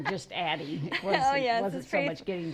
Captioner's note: laughs